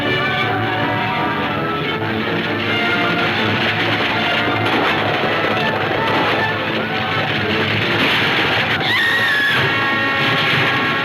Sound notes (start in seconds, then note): 8.8 Lucy screams